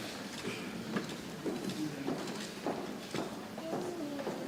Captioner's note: people chattering softly